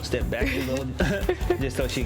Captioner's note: laughs